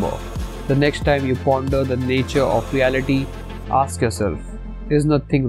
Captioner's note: voice-over